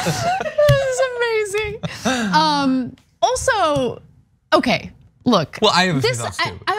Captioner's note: laugh